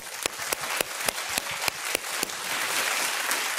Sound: applause

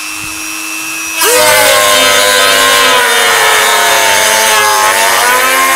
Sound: Robbaz screaming

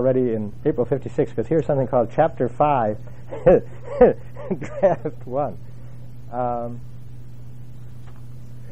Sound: laugh

